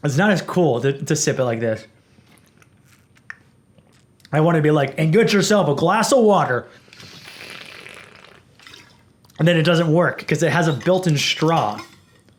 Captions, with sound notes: It's not as cool to sip it like this. (sipping) I want to be like, "And get yourself a glass of water!" (loud sipping) And then it doesn't work, because it has a built-in straw.